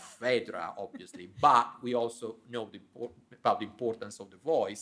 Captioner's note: chuckling